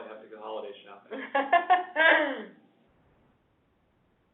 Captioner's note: laughs